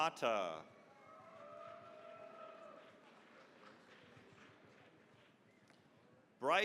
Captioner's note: cheering, applause